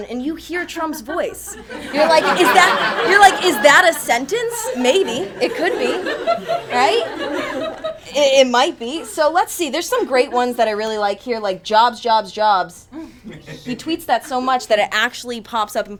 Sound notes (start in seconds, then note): 1.9 attendees laugh